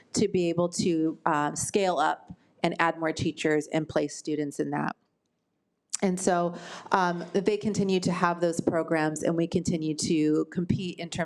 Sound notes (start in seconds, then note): none